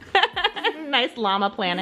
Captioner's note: laughing